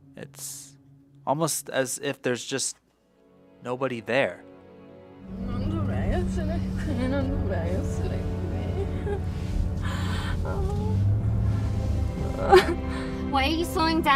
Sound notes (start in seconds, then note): 2.6 voice slows; 6.2 music builds